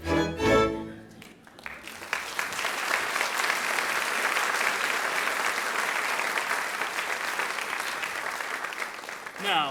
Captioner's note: applause